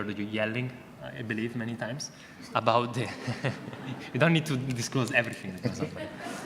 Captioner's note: audience laughter